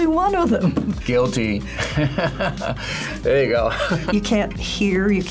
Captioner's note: laughs